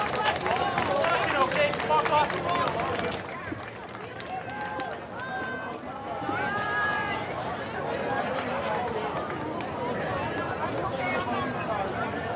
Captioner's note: cheering